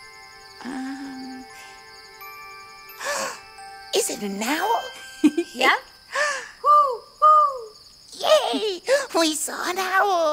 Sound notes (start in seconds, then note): 6.6 imitation owl hooting